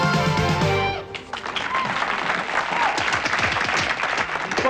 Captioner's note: applause